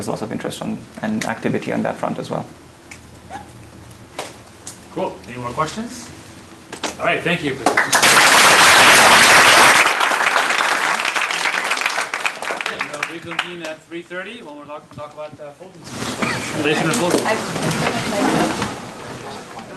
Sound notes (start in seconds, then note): 7.6 applause